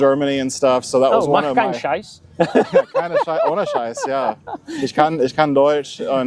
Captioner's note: german